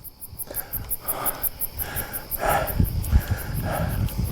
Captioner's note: breathing heavily